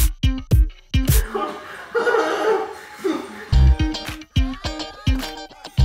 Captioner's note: laughs nervously